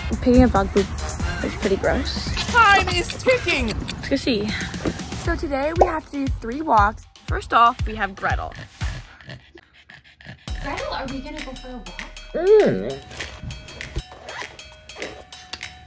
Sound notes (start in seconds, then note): 12.4 Gretel whimpering